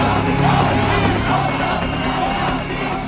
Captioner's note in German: Rufe aus der Menge